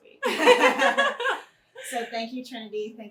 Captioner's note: both laughing